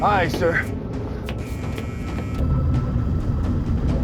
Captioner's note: alarm